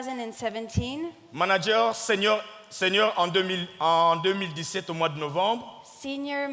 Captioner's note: speaking in French